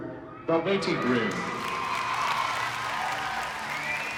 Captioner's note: crowd cheering, clapping